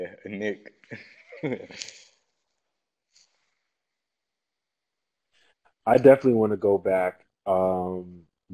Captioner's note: laugh